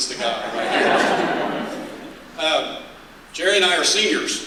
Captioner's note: laughter